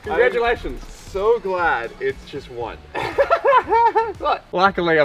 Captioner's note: laughs